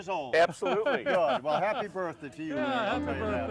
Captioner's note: laughing